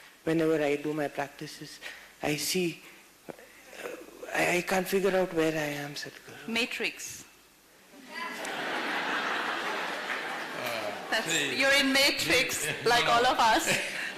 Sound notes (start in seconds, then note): 8.2 laughter